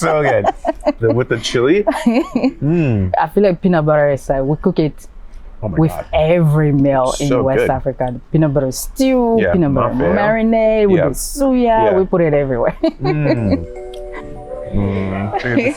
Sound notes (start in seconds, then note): 0.0 both laugh; 12.4 laughs; 13.0 gentle music